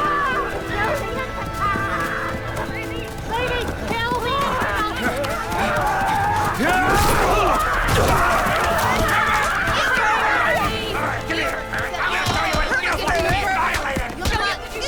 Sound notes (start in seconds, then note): 8.1 ladies Yelling